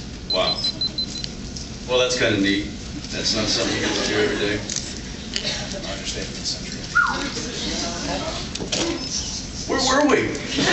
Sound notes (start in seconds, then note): 6.9 whistles; 10.5 laughs